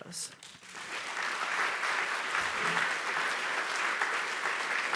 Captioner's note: audience applauding